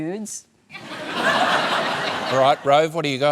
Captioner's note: laughter